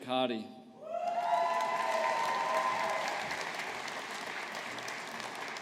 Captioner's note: audience applauding